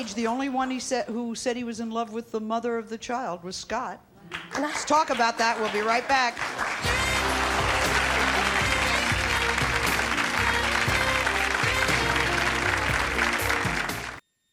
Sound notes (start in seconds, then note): 4.4 audience applauding; 6.7 jazz music; 9.2 audience applauding